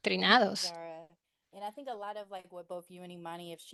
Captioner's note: hablando inglés